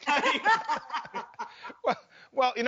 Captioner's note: laugh